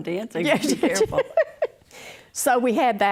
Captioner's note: laughs